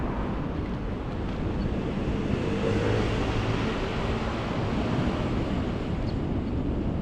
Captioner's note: wind Blowing